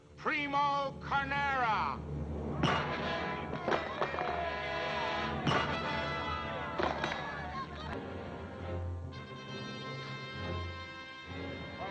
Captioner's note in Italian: Applauso